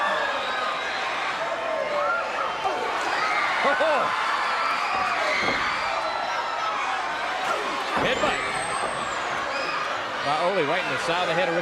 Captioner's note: crowd cheering